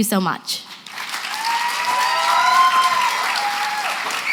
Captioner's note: applause, cheering